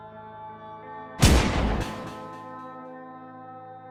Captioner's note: gunshot